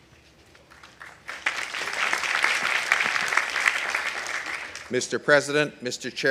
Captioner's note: audience applauding